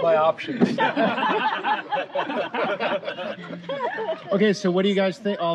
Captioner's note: laughter